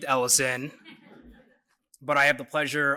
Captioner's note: laughter